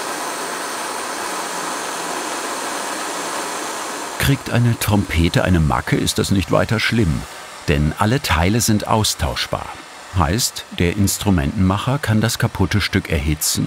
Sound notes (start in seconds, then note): none